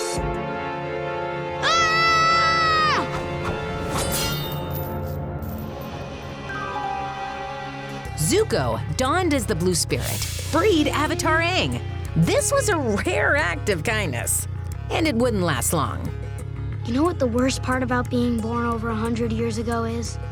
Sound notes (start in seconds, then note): 1.6 screaming